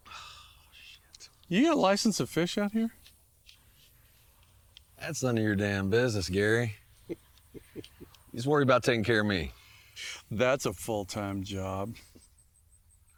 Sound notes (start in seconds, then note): 7.4 Gary laughs